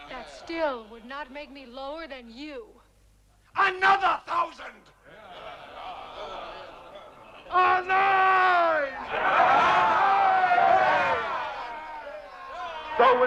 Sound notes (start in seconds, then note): 5.2 chieftains clamoring; 9.3 chieftains cheering